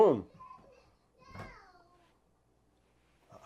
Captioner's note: child's Voice